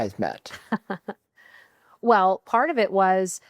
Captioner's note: laughing